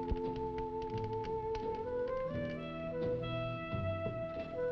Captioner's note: fire crackling; slow music